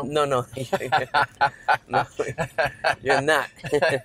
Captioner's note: both laugh